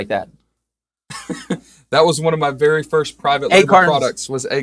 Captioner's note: laughs